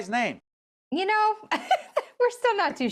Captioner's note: chuckles